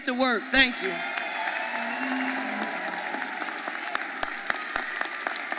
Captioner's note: audience applauding